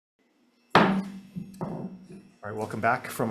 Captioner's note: gavel taps